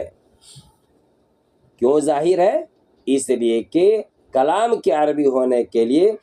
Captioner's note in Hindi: नाक से की जाने वाली आवाज़